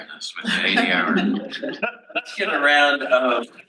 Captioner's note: panel laughs